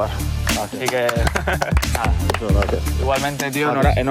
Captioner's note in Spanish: Aplausos